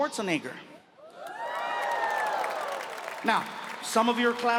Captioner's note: audience cheering